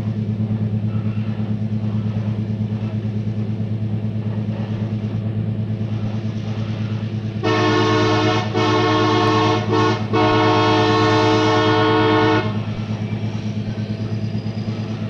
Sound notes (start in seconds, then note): 7.4 train horn; 12.8 sound of the train moving